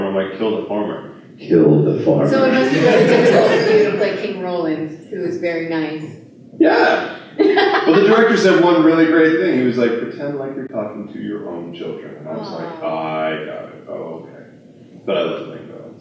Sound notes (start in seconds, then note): 7.3 laughter